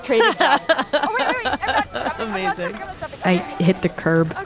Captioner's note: laughs